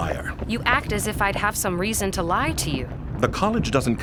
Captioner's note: defensive